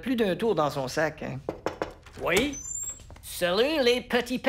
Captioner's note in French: Toc! Toc! Toc!